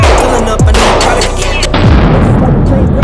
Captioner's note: gun booming